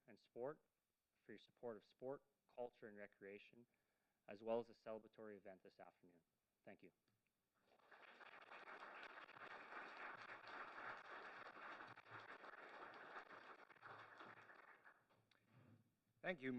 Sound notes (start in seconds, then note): 7.6 applause